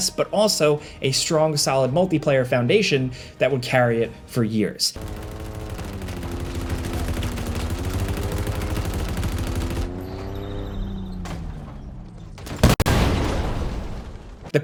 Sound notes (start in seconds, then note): 4.9 engine revving; 4.9 guns banging; 12.3 explosion booms